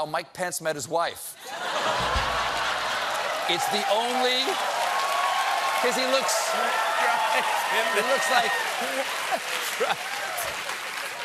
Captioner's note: laughter